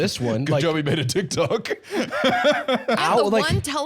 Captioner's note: laughs